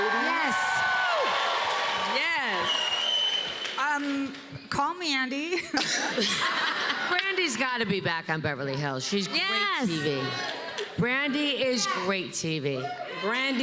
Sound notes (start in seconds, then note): 0.0 cheers and applause; 5.5 laughter